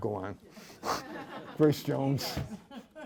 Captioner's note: laughter